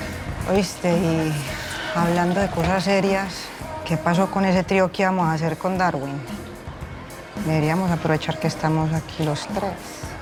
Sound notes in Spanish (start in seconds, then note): none